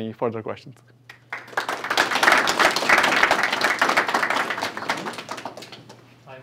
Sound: applause

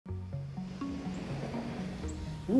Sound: door creaking

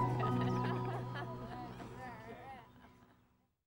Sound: laughter

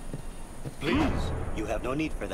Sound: woosh

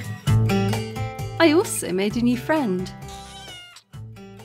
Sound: cat meows

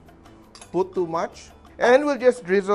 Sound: clink

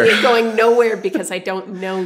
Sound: laughter

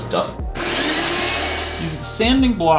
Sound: vacuum whirs

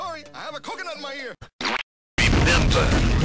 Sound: splat

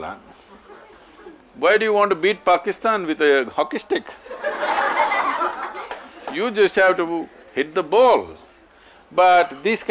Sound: laughter

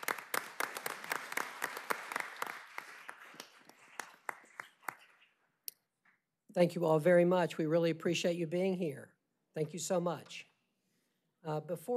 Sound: applause

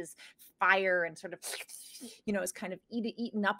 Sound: slurping

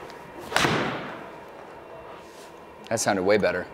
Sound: ball thuds

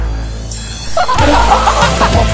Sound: cackling

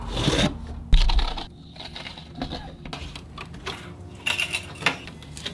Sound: tools rustling

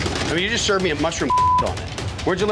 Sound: beep

